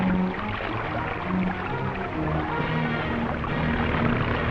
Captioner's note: water splashing